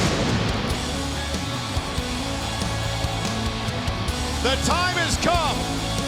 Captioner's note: crowd cheering